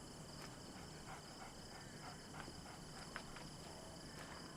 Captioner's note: coyote panting